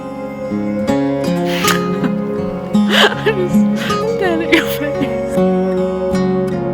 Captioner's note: laughing